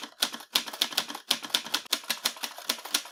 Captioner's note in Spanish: Sonidos de máquina de escribir